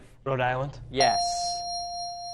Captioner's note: ding